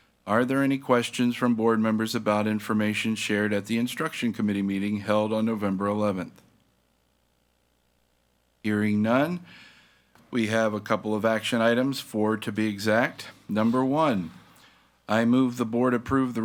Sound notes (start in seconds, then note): none